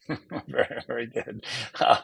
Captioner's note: chuckles